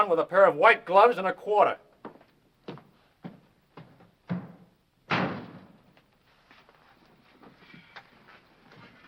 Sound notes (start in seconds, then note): 5.0 door slams